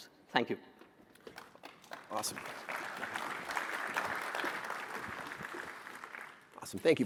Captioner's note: applause